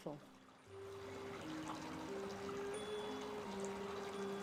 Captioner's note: water softly splashing